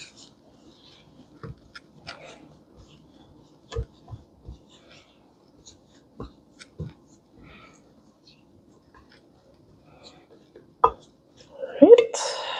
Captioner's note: mixing sounds